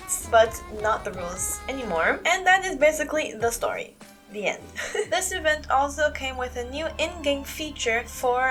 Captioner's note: laugh